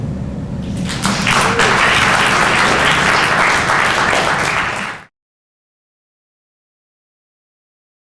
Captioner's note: audience applause